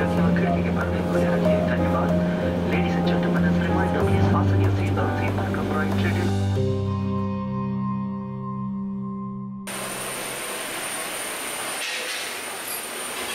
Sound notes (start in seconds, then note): 9.7 engine hissing